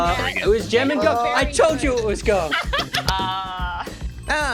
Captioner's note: laughs